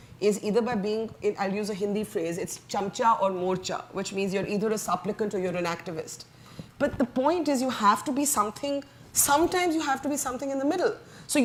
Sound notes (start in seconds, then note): 2.7 speaks foreign language